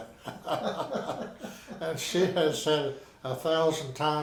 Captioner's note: both laughing